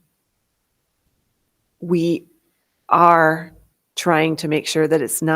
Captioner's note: none